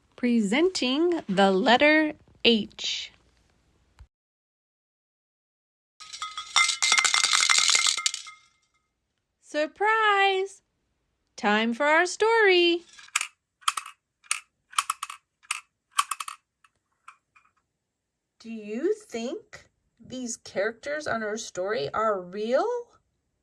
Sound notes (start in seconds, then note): 6.0 rattles clattering; 16.0 weights rattling